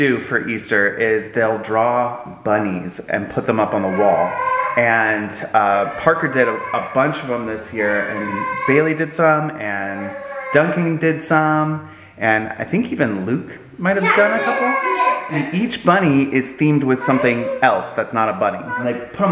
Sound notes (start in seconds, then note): 3.6 child cries